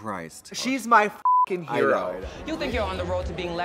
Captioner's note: beep